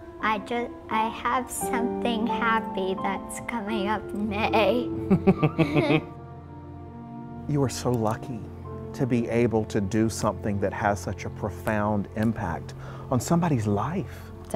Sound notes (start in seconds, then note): 5.0 laughter